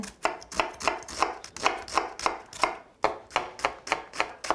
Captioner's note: knife chopping